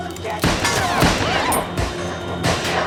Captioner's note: Fritz speaking in foreign language; shots firing; Jane screams; shots firing